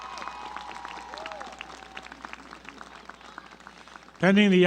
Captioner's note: applause